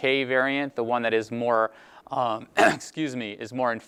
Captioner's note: clear throat